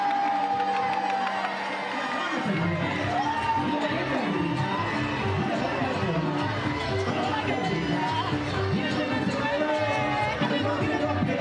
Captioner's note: cheering